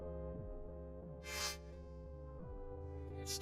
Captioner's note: sniffles